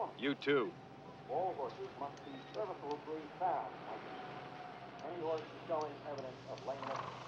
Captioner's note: muffled speaking over loudspeaker